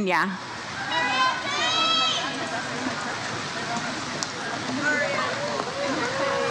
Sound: audience member cheers " "

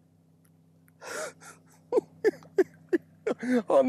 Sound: giggling

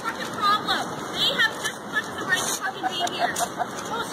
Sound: unknown Man Laughing

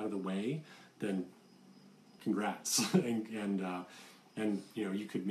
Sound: laughs

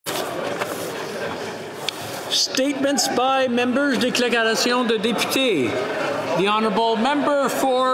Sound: speaking French

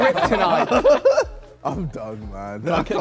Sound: Sidemen laugh

